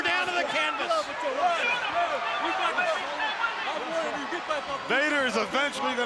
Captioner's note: crowd chatter